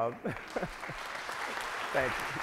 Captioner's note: audience applauds